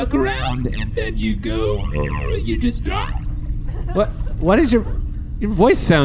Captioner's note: low "uh"